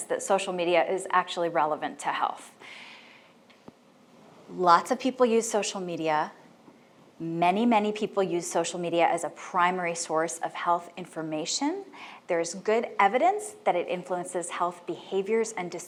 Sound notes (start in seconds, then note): none